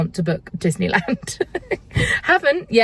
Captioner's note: laughing